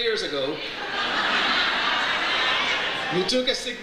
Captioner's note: audience laughs